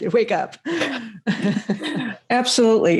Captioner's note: both chuckle